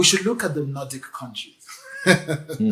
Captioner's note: laughs